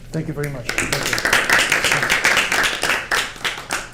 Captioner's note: applause